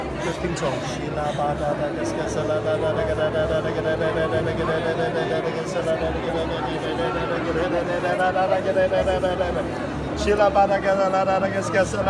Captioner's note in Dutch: spreekt in tongen